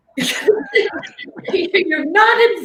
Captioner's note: laughing